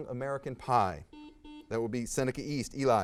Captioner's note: buzzer beeps